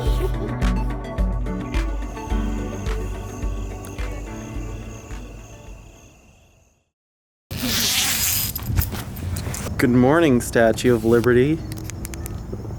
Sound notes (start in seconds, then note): 0.0 soft upbeat music; 7.5 zipper opening